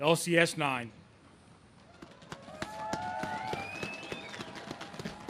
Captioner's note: audience claps